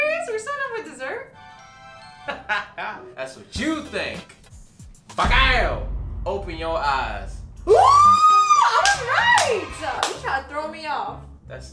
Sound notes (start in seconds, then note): 2.4 laughing; 7.7 screaming; 9.9 clapping